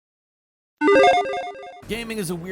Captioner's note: logo beeps